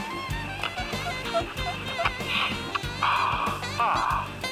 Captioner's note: squeaking